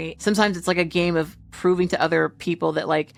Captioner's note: none